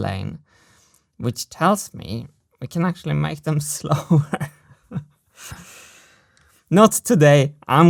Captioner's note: chuckles